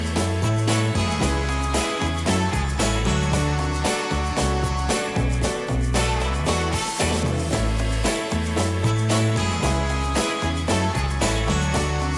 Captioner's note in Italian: Applauso